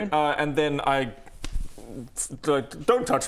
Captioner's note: slap